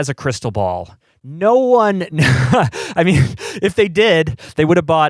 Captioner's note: laughs